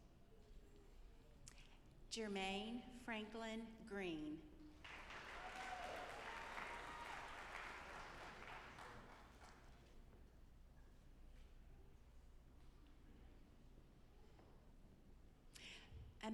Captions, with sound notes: Jermaine Franklin Greene. (audience applauding)